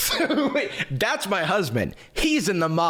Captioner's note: laughs